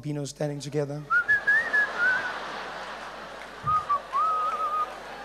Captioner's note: whistling